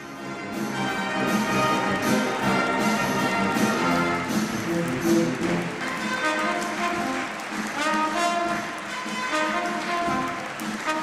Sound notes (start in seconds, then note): 7.2 applause